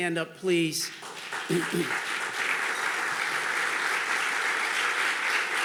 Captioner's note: audience clapping